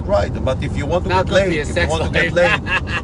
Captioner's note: laughs loudly